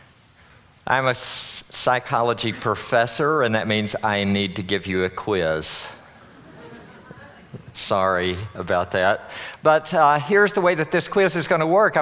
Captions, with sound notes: I'm a psychology professor, and that means I need to give you a quiz. [audience laughing] Sorry about that. But here's the way that this quiz is gonna work.